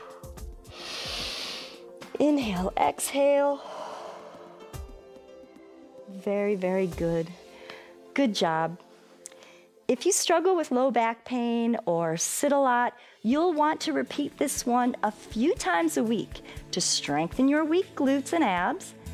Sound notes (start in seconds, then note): 0.6 inhales; 4.0 exhales